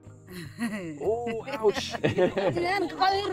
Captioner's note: woman laughs